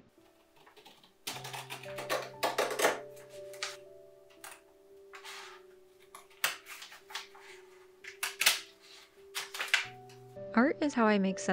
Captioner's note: crispy paper cutting